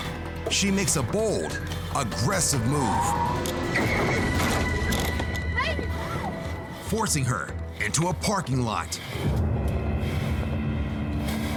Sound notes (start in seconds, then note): 2.2 tires squeal; 3.1 crash; 9.3 dramatic music playing